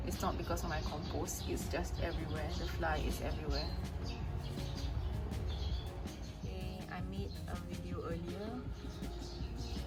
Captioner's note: flies